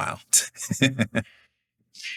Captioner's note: chuckles